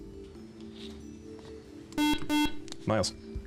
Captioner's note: beep